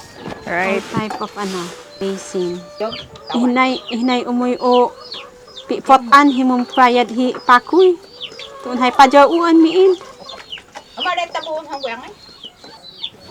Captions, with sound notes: Old type of basin. (foreign language)